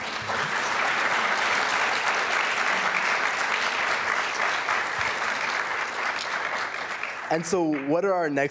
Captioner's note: applause